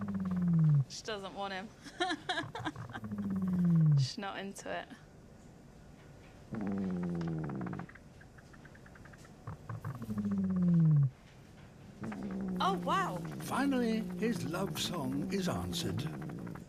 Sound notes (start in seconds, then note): 1.7 laughs; 6.5 deep, resonant rumbling; 11.8 female treehopper rumbles